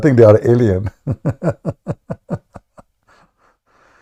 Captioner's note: Ketawa